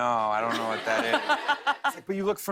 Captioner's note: laughter